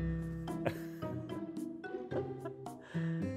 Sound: laughter

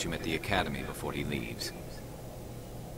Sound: none

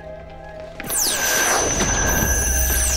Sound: electronic buzzing

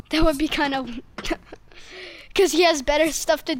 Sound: giggling

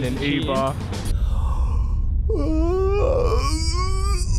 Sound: yawns loudly

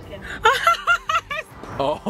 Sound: laughs

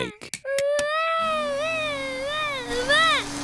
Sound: vacuum cleaner whirring

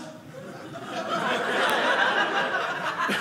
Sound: audience laughing

